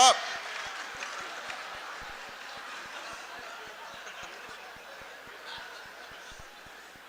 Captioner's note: laughter, applause